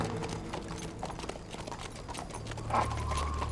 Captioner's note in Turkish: At nalı sesleri